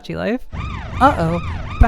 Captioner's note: siren sound